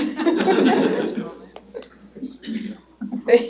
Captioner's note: laughter